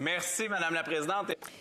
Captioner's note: speaking French